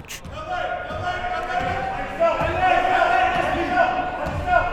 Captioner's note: chattering faintly